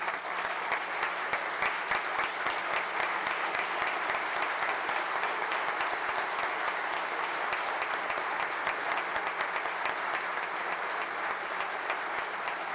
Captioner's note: applause